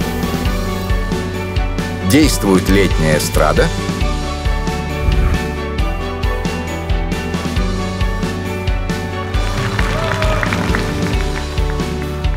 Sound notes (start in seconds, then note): 9.4 applause